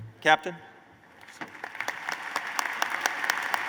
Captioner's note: applause